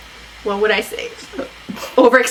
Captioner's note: both laugh